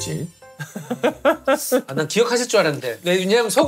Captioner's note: laughing